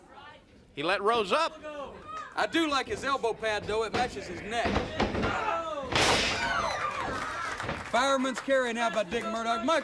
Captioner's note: crowd cheering